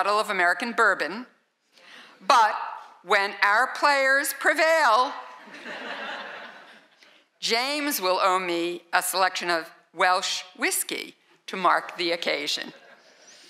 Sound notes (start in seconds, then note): 5.4 laughter